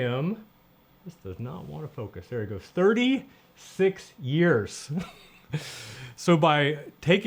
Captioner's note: laughs